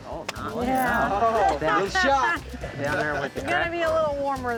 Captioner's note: all murmuring